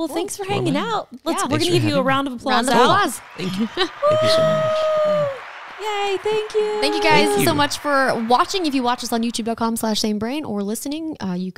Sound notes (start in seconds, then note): 3.7 crowd applauds